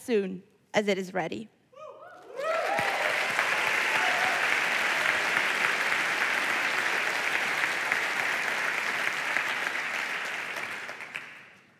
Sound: applause

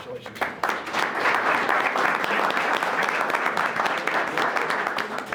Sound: audience applauds

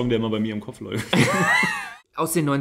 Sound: laughs

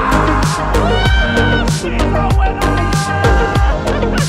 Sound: excited yelling

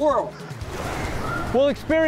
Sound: splash

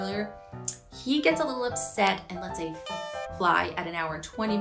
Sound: air horn honks

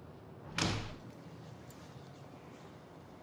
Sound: door clacks

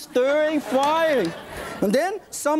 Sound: audience laughs

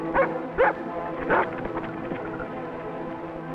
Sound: dog barks

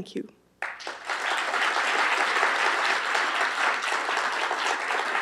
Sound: applause

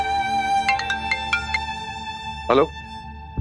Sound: phone rings

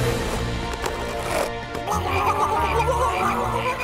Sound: grunting

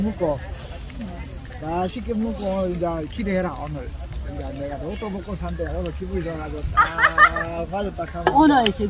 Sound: haha

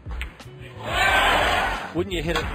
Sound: audience cheering

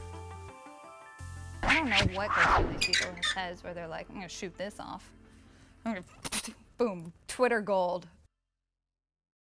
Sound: explosion sound

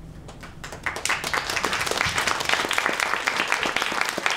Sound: audience applauds

